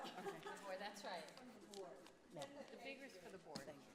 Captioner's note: laughter